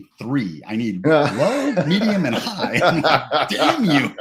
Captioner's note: laughs